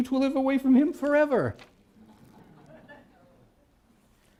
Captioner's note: laughter